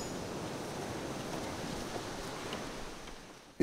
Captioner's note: ocean waves